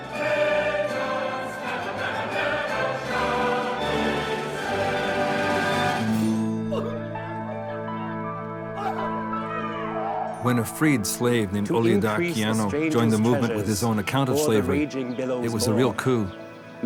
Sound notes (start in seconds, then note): 6.5 people crying